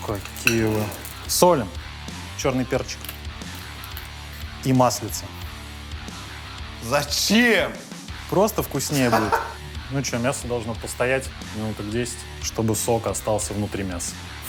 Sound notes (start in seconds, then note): 8.8 Dud laughs